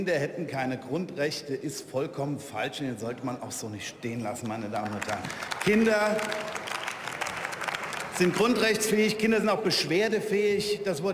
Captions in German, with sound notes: Kinder hätten keine Grundrechte, ist vollkommen falsch und sollte man auch so nicht stehen lassen, meine Damen und Herren. (Beifall) Kinder sind grundrechtsfähig, Kinder sind auch beschwerdefähig,